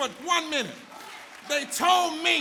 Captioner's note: audience applauds